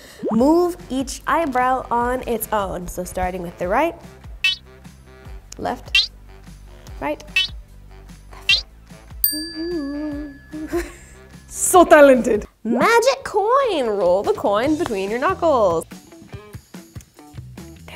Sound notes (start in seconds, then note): 4.4 digital beep; 7.3 digital beep; 9.2 bell dings; 10.6 laughs; 16.0 light music